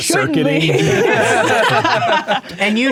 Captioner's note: players laughing